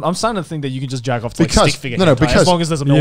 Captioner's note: murmurs